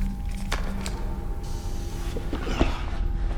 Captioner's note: air hissing